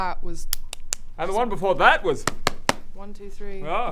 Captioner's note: knock knock knock; knock knock knock